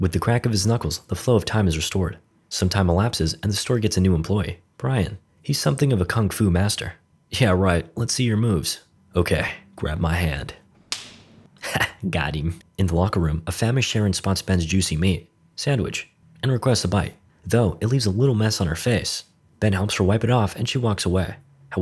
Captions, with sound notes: With the crack of his knuckles, the flow of time is restored. Some time elapses, and the store gets a new employee, Brian. He's something of a kung-fu master. "Yeah right, let's see your moves.", "Okay, grab my hand." [Slap] In the locker room, a famished Sharon spots Ben's juicy meat, sandwich, and requests a bite. Though, it leave a little mess on her face. Ben helps her wipe it off and she walks away.